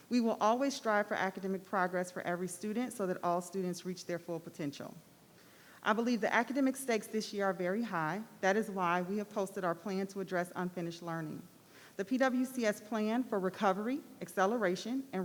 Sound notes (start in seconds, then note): none